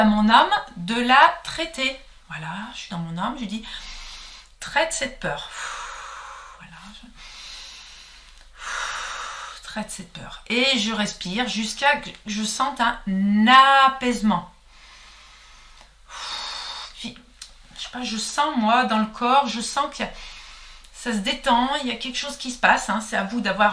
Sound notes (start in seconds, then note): 3.6 breathing; 11.1 breathing